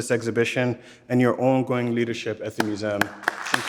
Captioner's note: audience clapping; clapping